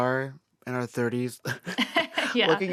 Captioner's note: laughter